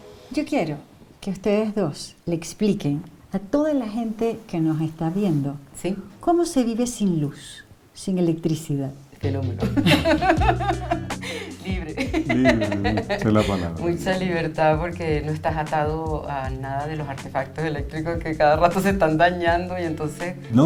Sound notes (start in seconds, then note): 9.6 laughs